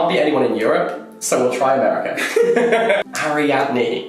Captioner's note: laughs